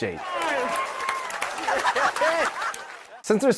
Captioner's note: control room cheering